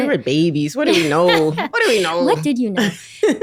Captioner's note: laughter